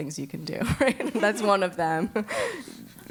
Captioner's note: laugh